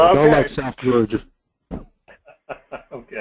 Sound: laugh

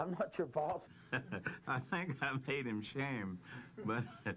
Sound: laughs

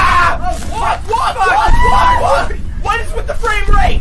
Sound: small scream

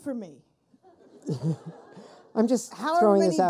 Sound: people laughing

